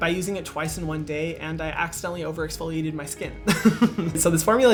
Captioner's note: chuckles